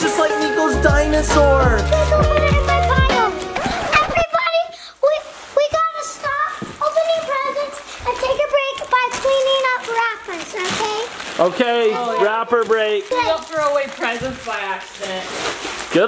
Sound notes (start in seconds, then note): 4.2 record screeches